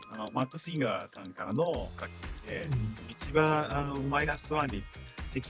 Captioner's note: graphics chimes; translator speaking in Japanese